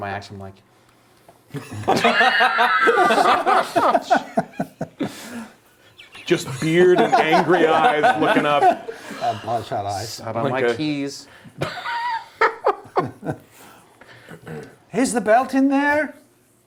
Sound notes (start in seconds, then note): 5.8 laughing